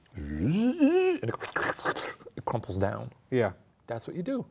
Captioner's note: slurps